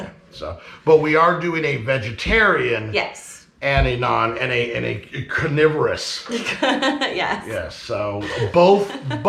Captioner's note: laughing